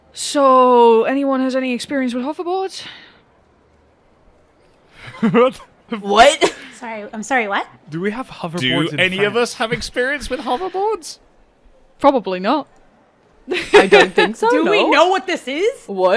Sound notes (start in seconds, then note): 4.9 laughing; 9.3 chuckles; 13.5 laughs